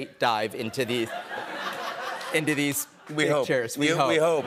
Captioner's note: laughter